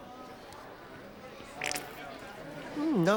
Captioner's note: squirting sound